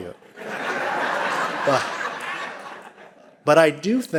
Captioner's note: audience laughing